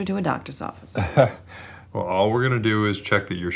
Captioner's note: chuckles